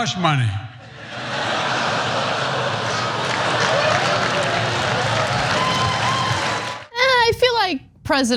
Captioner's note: applause; laugh